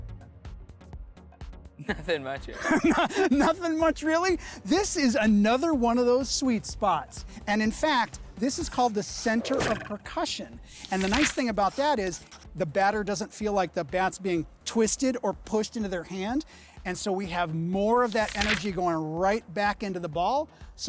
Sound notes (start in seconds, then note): 2.5 laughs